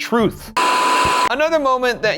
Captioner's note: television static